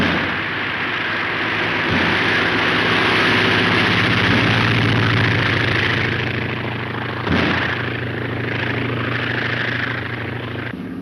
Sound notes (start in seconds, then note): 0.1 gun fires; 2.2 airplane engine roaring